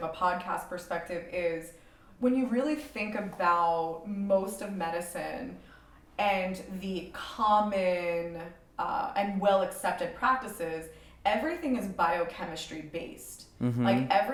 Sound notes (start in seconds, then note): none